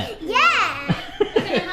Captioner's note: laughs